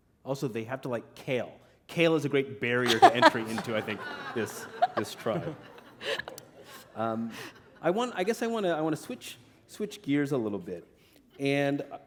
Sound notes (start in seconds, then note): 5.5 laughter